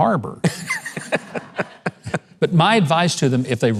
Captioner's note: laughing